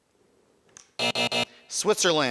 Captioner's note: buzzer buzzing